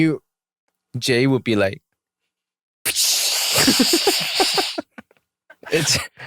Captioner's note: imitating Jae's laughter